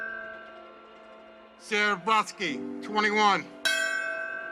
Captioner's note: bell chimes